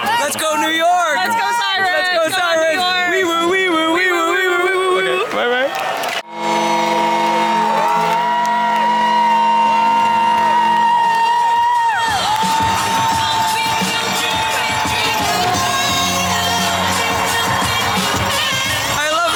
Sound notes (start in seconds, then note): 10.2 crowd cheering